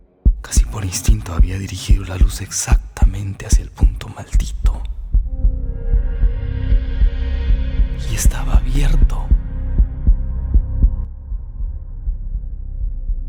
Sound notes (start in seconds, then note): 5.1 heartbeat; 10.3 strong heartbeat